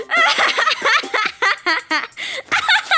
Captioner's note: Makoto continues laughing